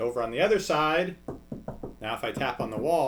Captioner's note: knocking